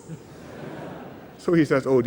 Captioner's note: laughter